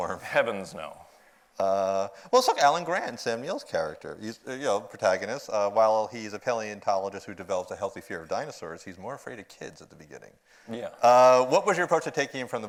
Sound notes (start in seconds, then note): none